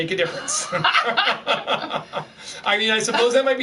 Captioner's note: laughing